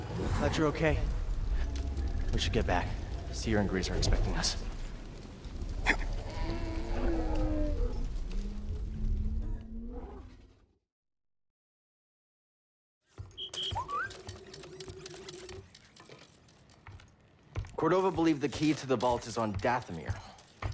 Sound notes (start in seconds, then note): 5.8 grunt; 13.2 beep-beep, whistle